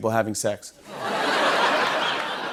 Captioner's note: laughter